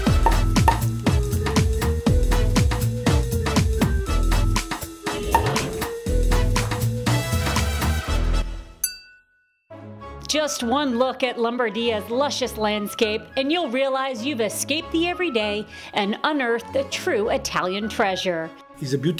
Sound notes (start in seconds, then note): 0.2 corks pop; 5.3 cork pops; 8.8 glasses clink